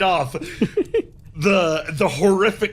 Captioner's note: laughs